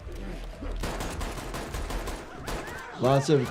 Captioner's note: gun fires